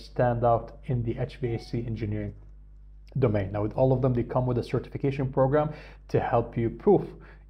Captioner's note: hvac